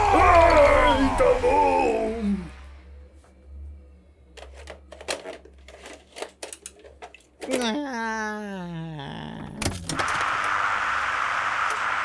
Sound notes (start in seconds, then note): 4.7 VHS tape sounds; 9.6 TV turns on